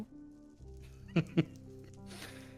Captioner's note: laughs